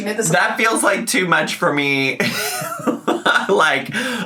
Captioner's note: laughs